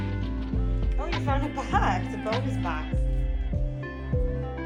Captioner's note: laughs